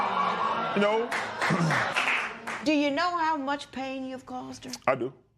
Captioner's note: applause